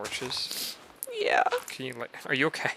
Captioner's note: sniffle